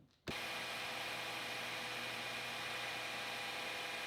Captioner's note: lathe whirring